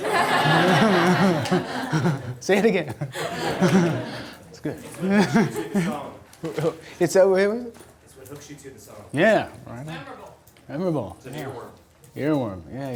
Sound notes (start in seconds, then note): 0.0 audience laughter; 3.8 laughs; 8.4 voiceover